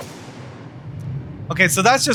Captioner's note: transition whooshes